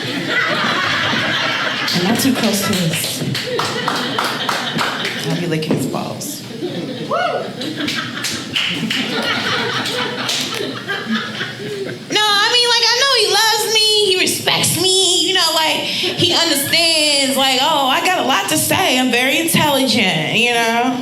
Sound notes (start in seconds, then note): 0.0 audience laughing; 7.3 audience applauding